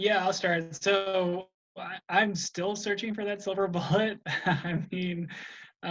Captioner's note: laughs